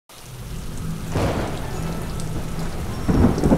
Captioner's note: rain falling; thunders background